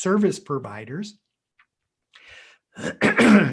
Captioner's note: clears throat